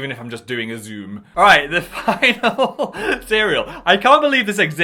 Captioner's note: laughs